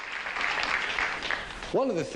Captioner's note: crowd claps